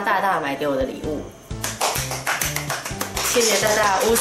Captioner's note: applause